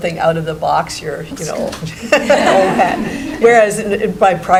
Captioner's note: laughing